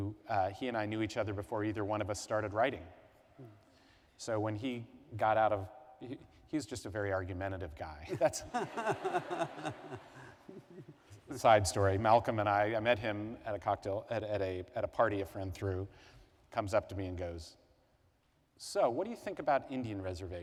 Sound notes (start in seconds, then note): 8.1 laughter